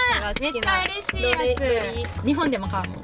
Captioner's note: clapping